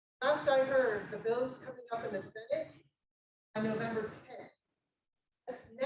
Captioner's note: speaking faintly